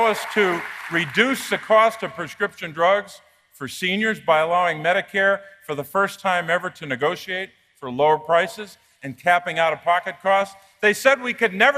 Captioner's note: applause